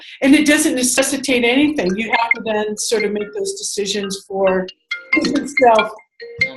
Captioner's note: phone ringing